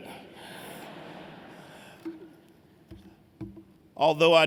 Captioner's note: laughter